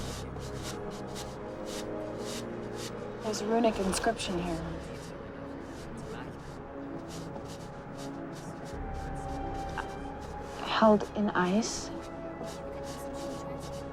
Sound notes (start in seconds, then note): none